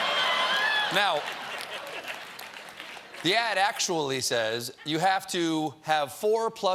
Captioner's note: laughter